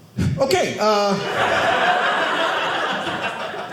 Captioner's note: audience laughing